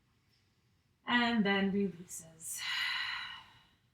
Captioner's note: exhales